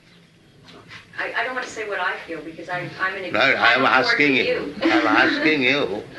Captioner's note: laughs